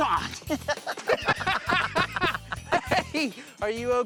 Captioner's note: laughter